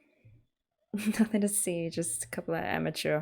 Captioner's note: laughs